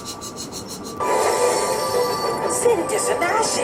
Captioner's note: wheels spinning